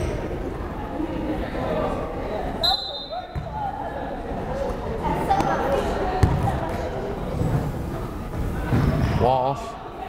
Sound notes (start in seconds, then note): 2.6 whistle blows; 4.3 crowd chattering